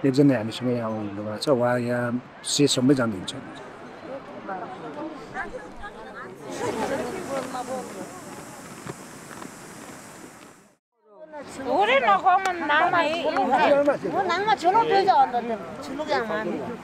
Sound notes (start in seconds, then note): 11.6 conversations in ethic language